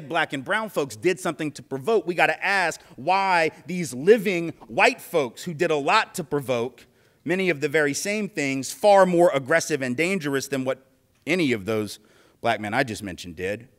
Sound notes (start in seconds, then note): none